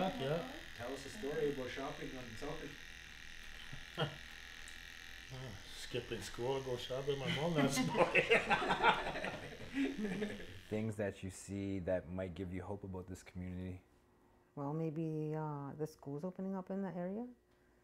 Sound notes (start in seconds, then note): 4.6 laughs; 10.0 laughter